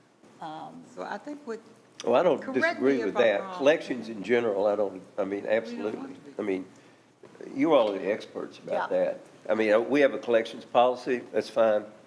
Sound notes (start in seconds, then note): 6.2 speaking quietly